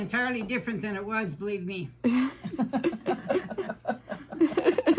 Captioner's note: women laugh